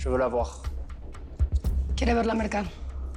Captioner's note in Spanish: Hablan en otro idioma